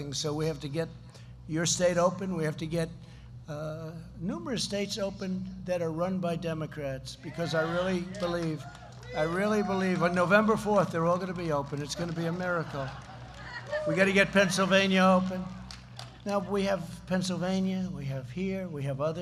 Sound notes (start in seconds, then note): 8.9 applause; 12.2 laughter